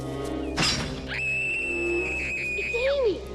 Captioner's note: metal clangs; Amy screams